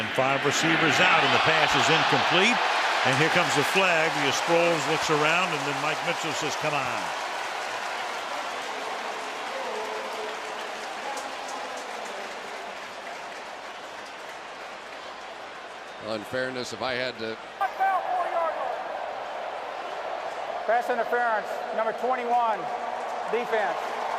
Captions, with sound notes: They send five receivers out and the pass is incomplete and here comes the flag, as Sproles looks around. And then Mike Mitchell says, come on. [cheering] [pa announcement] Well, in fairness, if I had to-- Pass interference, number 21, defense.